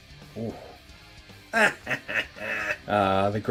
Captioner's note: cackles evilly